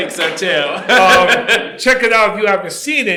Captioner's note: laughs